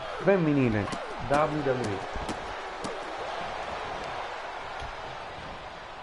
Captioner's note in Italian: Applauso